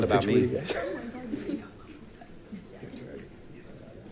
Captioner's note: group laughing